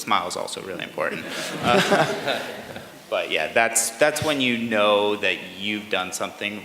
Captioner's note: laughter